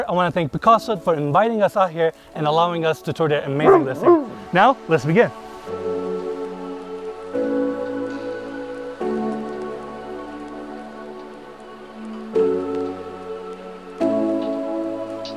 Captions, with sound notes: I wanna thank Pacaso for inviting us out here and allowing us to tour the amazing listing. (barking) Now let's begin. (soft music)